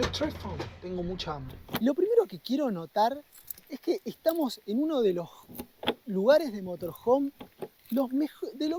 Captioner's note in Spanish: dice algo en francés